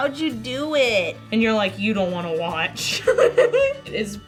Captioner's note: laughs